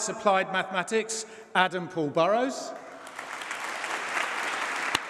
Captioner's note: applause